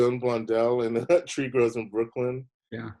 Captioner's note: chuckles